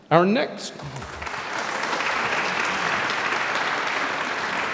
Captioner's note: audience applauds